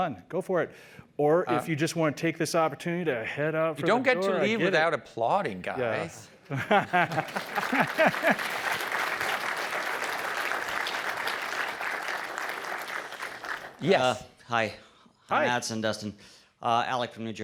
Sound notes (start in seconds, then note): 6.8 applause